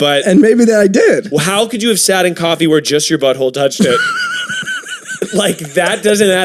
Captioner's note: wheezing